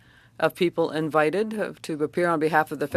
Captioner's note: speaking French